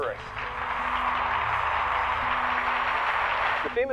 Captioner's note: clapping